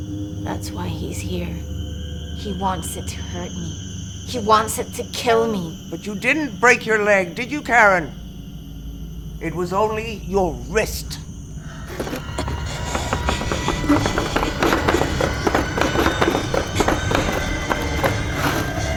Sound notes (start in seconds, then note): 11.7 eerie music; 11.8 labored breathing